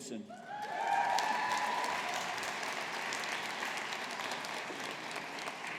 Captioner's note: audience applauding